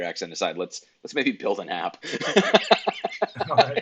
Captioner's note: laughs